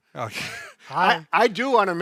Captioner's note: laughs